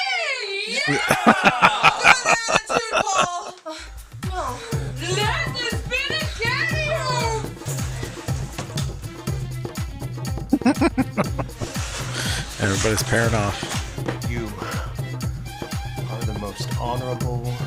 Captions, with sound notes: [Laughing] [Laughing] Everybody's pairing off.